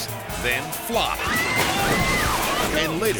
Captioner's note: contestants screaming